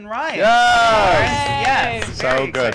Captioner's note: cheering